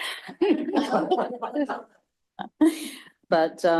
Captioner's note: laughter